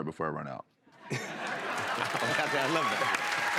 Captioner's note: laughter and applause